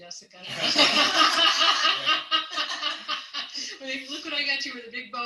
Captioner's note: all laugh